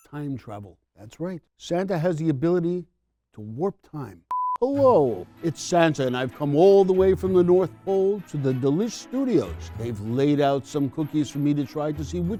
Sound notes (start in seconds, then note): 4.3 camera beeps